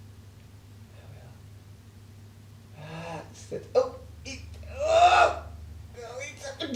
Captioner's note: whispering